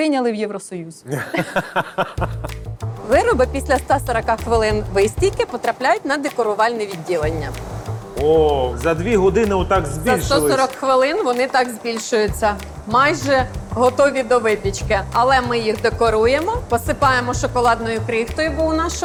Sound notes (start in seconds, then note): 1.0 laughs